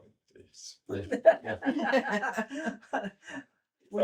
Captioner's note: laughter